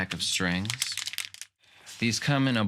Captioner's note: package crinkling